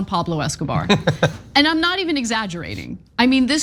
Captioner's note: laugh